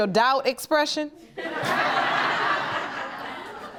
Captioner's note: audience laughing